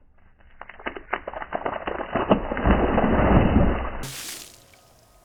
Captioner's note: sound of water hitting